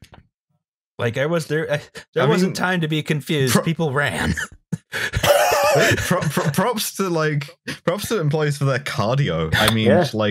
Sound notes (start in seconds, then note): 4.7 laughing